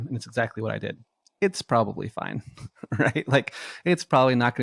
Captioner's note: laughs